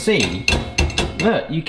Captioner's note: bottle clinks